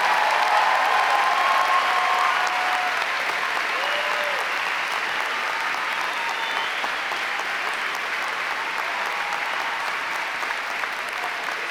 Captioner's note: applause